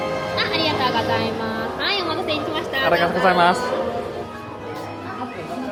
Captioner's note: cast member speaking Japanese